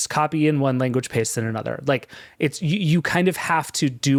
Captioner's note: none